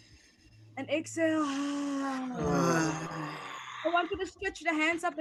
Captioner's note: exhaling audibly